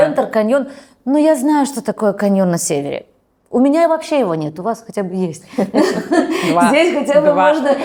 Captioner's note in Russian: смех